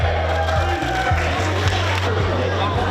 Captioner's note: people cheering